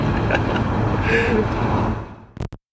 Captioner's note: laughter